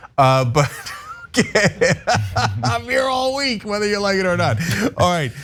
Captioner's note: laugh